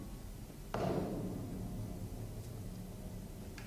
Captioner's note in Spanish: El piano se cierra de golpe